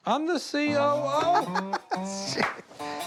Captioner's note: laughs